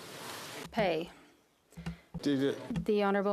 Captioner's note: speaking French